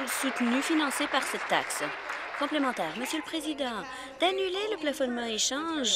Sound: applause

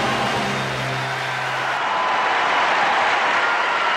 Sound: applause

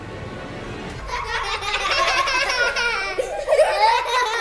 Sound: laughing

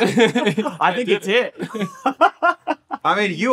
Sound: laughing

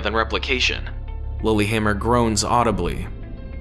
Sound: Lillihammer groans audibly

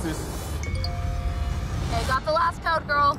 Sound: ding

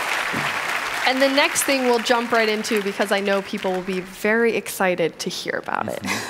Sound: cheers and applause

